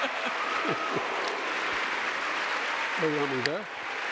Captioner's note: audience applauding and cheering; laughing